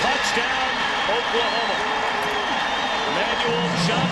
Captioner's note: crowd cheering